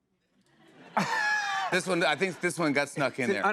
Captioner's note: laughter